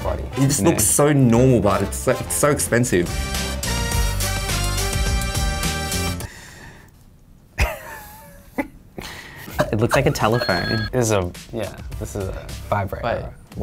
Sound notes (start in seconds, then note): 4.0 playful music; 7.6 laughs